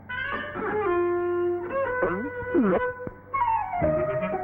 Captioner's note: gulp